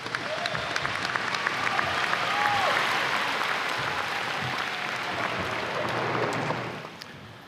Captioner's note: audience applause